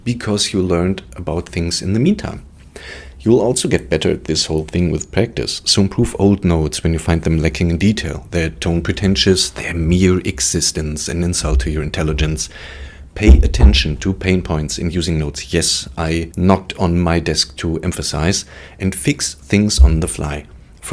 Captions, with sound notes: because you learned about things in the meantime. You'll also get better at this whole thing with practice. So improve old notes when you find them lacking in detail, their tone pretentious, their mere existence an insult to your intelligence. Pay [knocks on table] attention [knocks again] to pain points in using notes. Yes, I knocked on my desk to emphasize. And fix things on the fly.